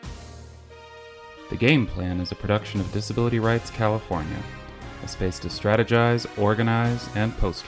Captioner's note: triumphant music fades in; voiceover